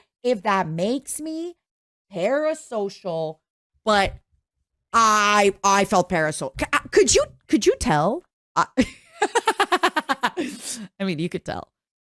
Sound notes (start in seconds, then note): 8.8 laughter